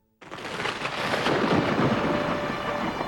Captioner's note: thunder crashing